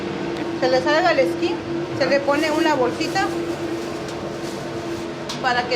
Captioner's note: speaking in foreign language